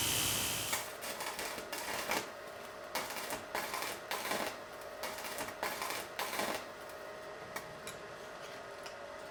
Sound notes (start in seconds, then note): 0.0 sparks buzzing